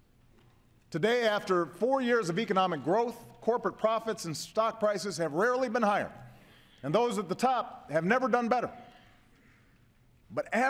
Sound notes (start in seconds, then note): none